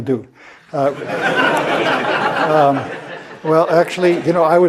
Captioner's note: laugh